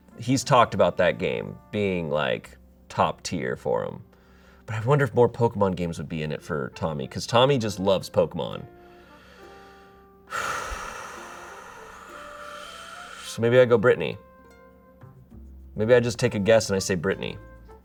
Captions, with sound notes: he's talked about that game being like top tier for him. But I wonder if more "Pokémon" games would be in it for Tommy, 'cause Tommy just loves "Pokémon." (exhales sharply) So maybe I go Brittany. Maybe I just take a guess and I say Brittany.